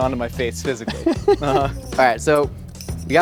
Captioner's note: Rhett laughs